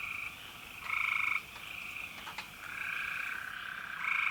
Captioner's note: insects chirping